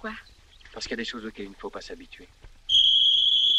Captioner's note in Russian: свист